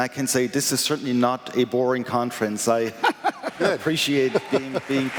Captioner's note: laughter